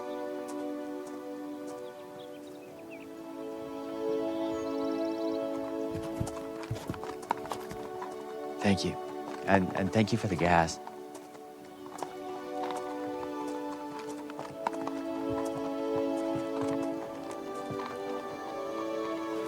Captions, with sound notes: (horses clopping) - Thank you. And, and thank you for the gas, (horses clopping) (soft dramatic music continues)